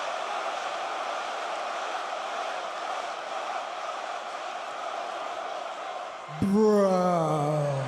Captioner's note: crowd cheering